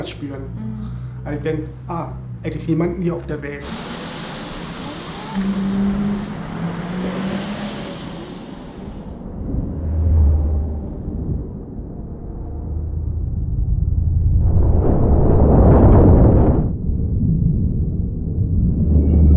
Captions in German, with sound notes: denn dann weiss sie, es ist jemand hier auf der Welt. *Laute Strassengeraeusche* *Strassengeraeusche werden dumpfer, man hoert nur noch Baesse*